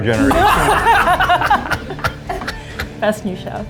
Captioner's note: judges laughing